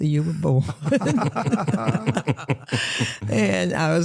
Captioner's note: laughter